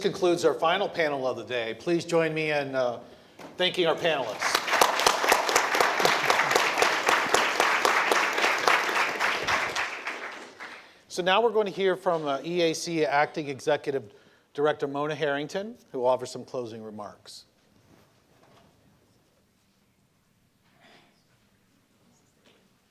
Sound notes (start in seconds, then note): 8.4 applause